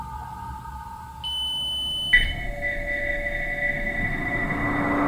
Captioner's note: machine beeping; eerie music